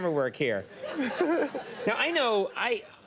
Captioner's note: giggles